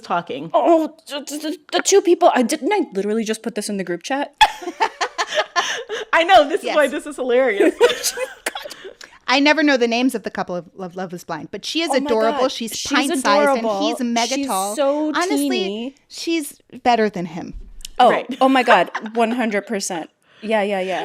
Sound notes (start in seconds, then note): 4.4 laughter